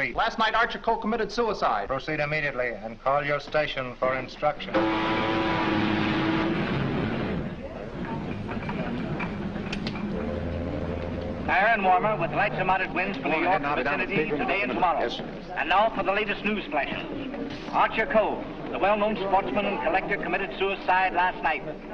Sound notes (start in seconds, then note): 4.7 ship horn; 10.0 weather forecast in background